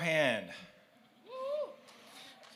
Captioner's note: cheers